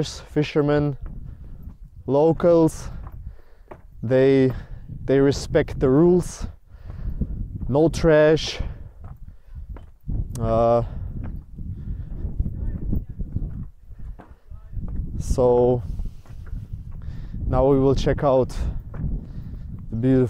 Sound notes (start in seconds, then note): 12.5 wind blowing